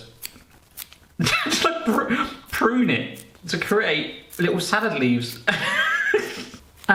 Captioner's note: laughs